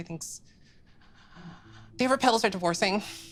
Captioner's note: shudders